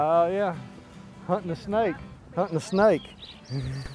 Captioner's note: laughing